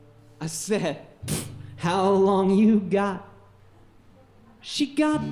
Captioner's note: puffs